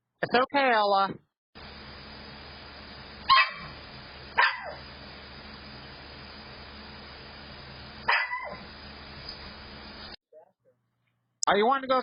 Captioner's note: Ella continues barking